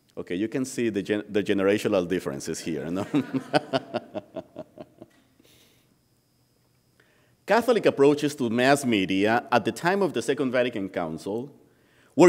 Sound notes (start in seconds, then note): 5.5 laughing